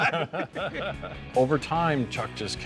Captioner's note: both laughing